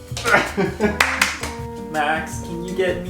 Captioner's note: claps